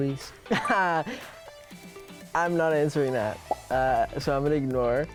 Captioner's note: laughing